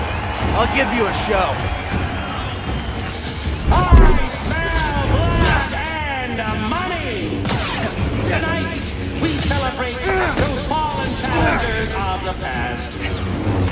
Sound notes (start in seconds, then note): 2.9 sniff